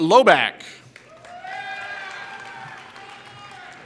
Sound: applause

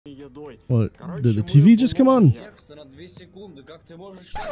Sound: Russian language in background

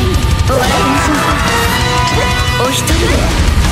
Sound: dominated scream

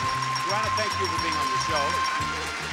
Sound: bell continues to ring

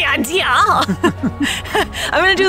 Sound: laughs

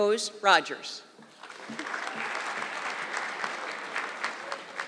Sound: audience clapping

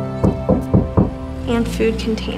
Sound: knocking on door

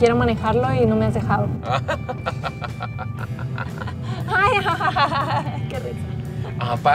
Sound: both laugh ironically

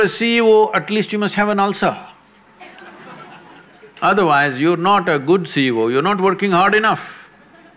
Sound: laughter; laughs

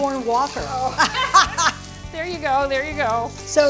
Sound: both laugh

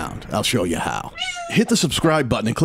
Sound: cat meowing

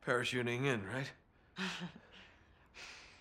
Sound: laugh

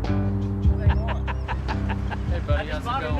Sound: laughing

